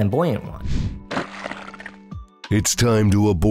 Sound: watery punch

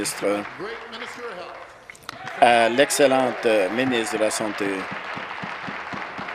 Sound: applause

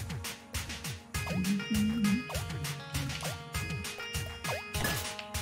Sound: humming along

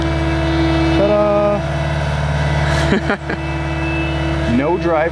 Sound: laughing

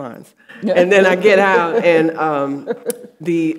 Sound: audience laughing

